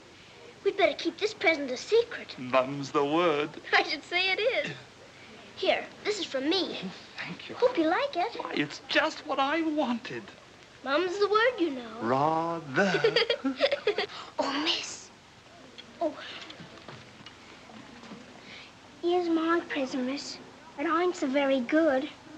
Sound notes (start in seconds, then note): 12.8 Sara giggling